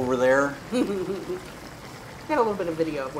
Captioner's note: laughing